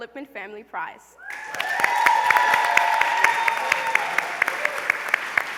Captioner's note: applause, cheering